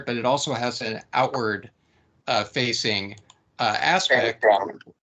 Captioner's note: typing sounds